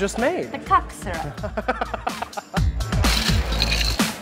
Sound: laughing; exciting music

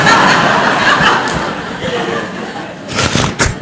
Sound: laughter from the audience

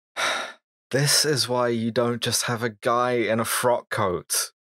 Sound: sharp intake of breath

